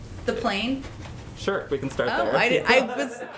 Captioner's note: laughter